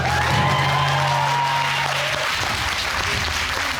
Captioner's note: applause